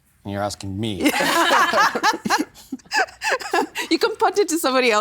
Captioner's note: both laughing